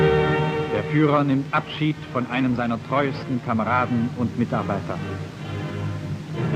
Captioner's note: speaking German